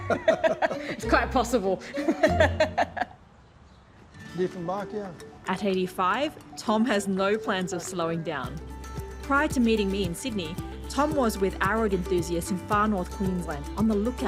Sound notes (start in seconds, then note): 0.0 both laugh; 1.8 laughs